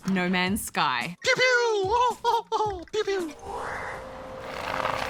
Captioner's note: burbles excitedly